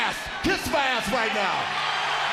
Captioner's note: crowd cheering